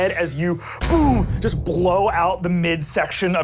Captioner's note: boom